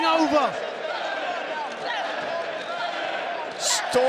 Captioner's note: crowd roars